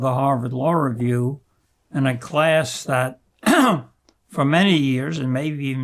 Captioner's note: clears throat